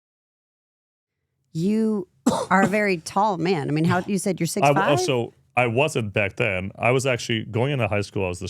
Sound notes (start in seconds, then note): 2.2 speaker coughs